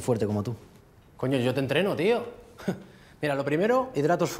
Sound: laughs

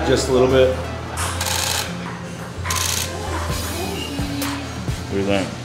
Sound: camera shutter clicks

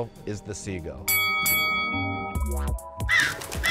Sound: bell rings

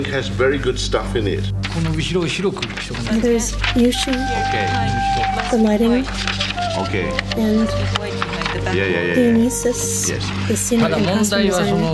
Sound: speaking japanese

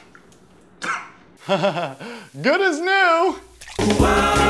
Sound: nervous laugh

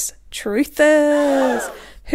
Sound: shocked gasp

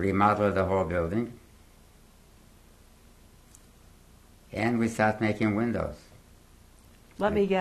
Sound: pauses for 3 seconds

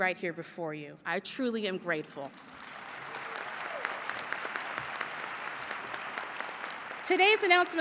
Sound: applause

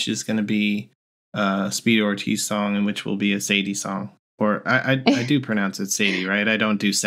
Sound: laughter

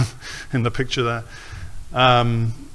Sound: snickers

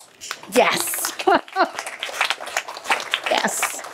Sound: applause

